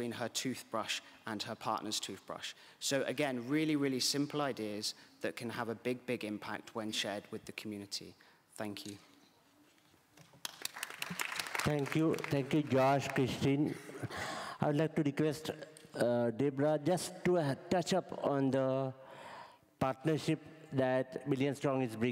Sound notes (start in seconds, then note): 10.4 applause